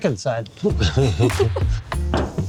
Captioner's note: laughing